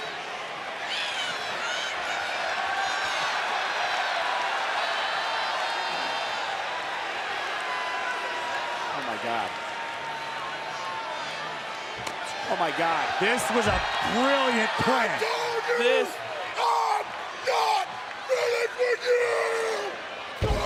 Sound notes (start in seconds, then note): 3.3 audience cheers